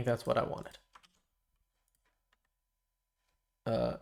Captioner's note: silence